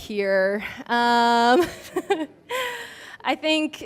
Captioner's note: laughs